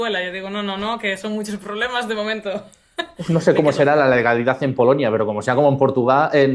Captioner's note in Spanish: risas